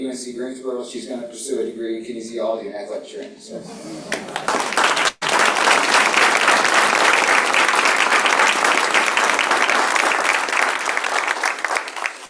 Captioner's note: applause